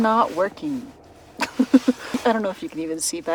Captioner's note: laughs